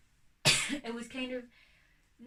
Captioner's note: coughs